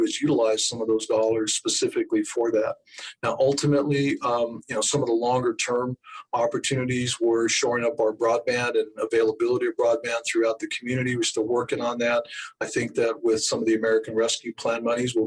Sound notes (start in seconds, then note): none